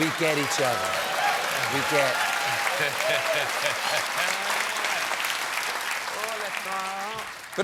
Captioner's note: applause